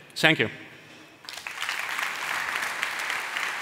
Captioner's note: applause